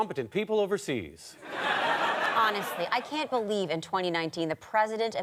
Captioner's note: audience laughter